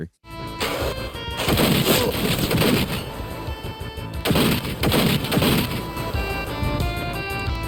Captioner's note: exciting music; guns popping